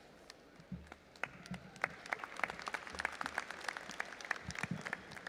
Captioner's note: audience applauding